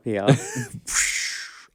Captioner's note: Alaska laughs